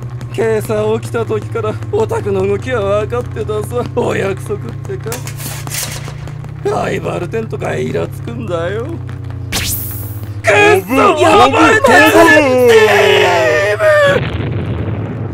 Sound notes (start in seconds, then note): 9.5 swish of katana; 10.4 panicking; 14.0 explosion